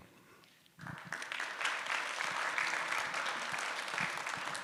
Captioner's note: applause